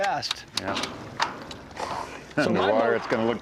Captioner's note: splash